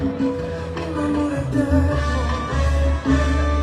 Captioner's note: in Spanish